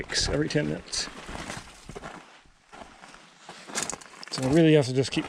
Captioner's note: gravel crunching